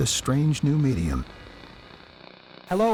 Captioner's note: radio Static